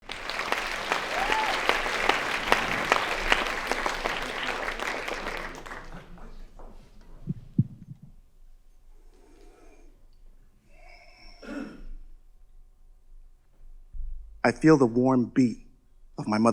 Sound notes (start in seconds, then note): 0.0 audience applauding